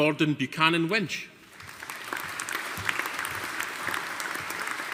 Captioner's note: audience applauding